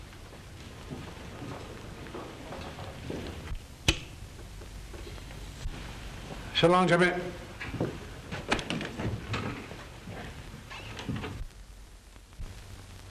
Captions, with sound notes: (intercom clicks) So long, Jimmy.